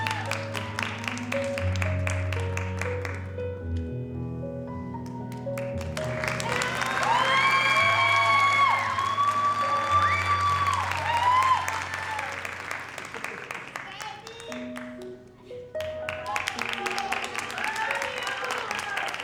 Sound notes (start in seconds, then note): 5.8 audience cheering; 6.0 audience applauding; 15.8 audience applauding; 19.0 soft music continues